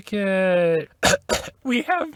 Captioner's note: cough cough